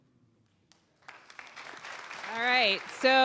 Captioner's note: applause